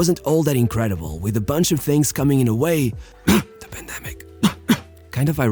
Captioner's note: cough